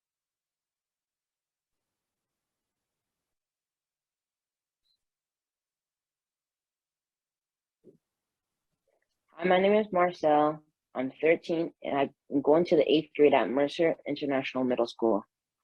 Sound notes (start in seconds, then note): none